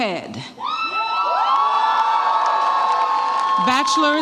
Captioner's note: audience applauds and cheers